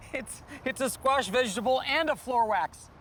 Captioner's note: laughing